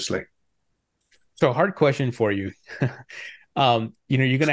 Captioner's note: chuckling